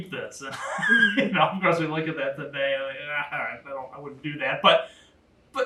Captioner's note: laugh